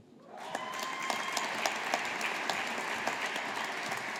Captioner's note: audience applauding